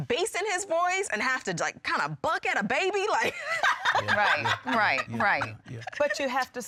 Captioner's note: laughs